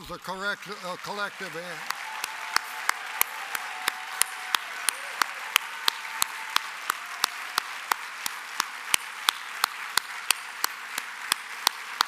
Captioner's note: applause